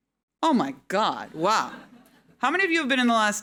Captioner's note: audience laughing